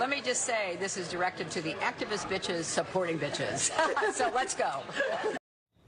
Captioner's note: laughing